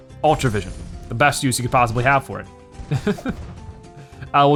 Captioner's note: laughs